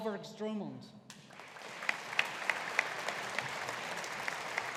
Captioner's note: audience applauding